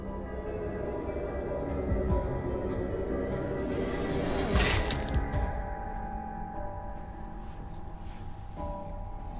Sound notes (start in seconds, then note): 4.9 splattering